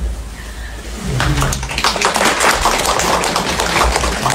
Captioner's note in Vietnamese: vỗ tay